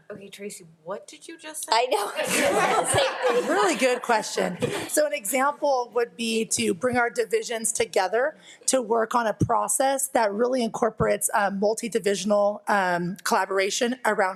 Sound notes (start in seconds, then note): 1.9 everyone laughing